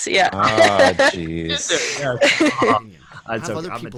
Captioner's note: laughing